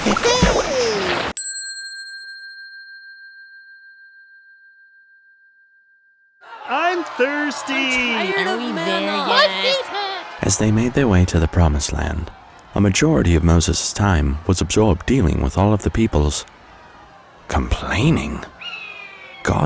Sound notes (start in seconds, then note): 1.4 bell dinging